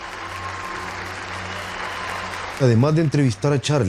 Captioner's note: applause